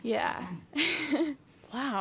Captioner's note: laughs